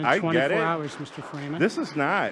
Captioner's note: audience applauding